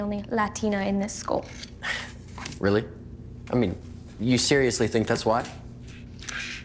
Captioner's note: chuckles